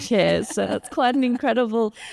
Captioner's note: laughs